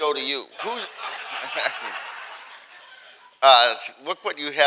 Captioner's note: audience laughing